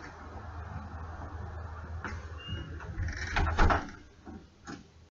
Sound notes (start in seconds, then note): 2.0 door close